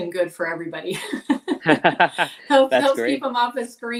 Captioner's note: both laughing